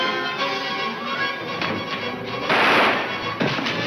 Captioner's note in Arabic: إطلاق النار بالبنادق